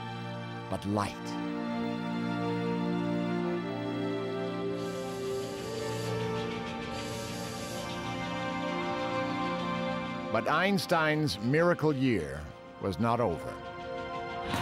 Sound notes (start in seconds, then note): 4.8 steam whistle blowing, train chugging